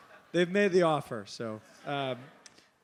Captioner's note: laugh